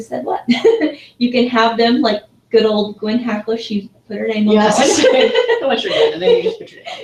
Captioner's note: laugh